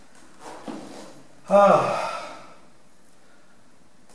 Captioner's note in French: soupir